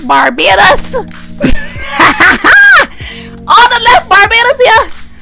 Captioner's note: a nasty cackle